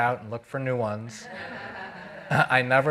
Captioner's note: audience laughing